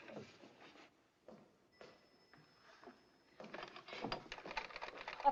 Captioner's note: elevator Bell Dings; footsteps